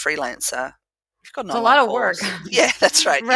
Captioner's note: laugh